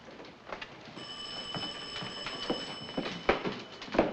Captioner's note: ringing continues